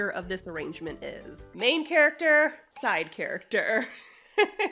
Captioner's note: giggles